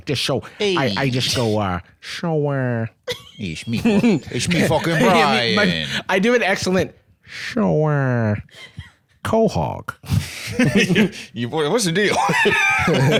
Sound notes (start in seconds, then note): 3.3 NY accent; 12.1 both laughing